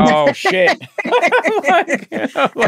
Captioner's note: laughing